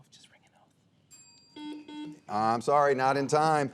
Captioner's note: bell dinging; buzzer beeping